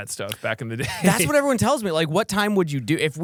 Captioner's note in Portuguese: risos